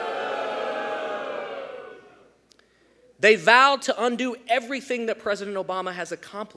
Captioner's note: boos